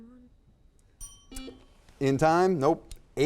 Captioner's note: bell dings